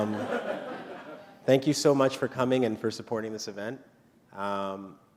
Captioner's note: laughter